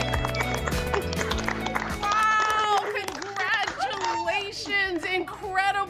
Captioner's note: applause